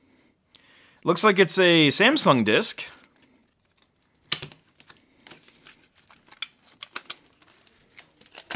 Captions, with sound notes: Looks like it's a Samsung disk. (hard drive snapping)